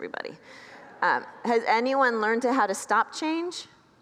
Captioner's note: congregants laugh